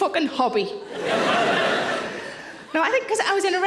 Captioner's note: audience laughing